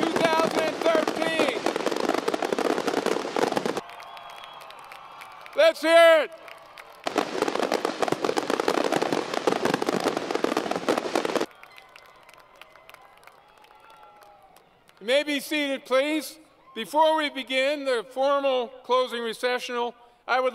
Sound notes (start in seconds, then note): 6.6 noise & Applause